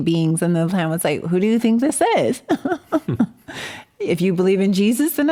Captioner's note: laughs